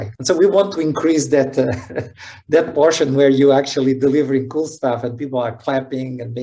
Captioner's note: laughing